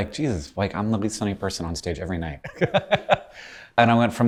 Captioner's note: laughs